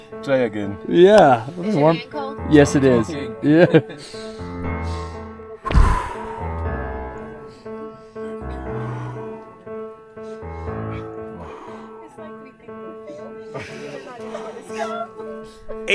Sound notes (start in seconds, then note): 4.0 takes a deep breathe; 7.3 deep breaths